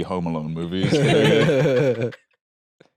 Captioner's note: laugh